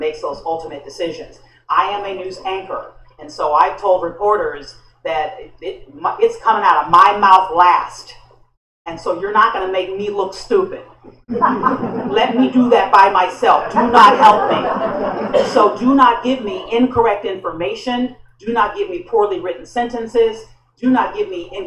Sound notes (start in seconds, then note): 11.1 laughter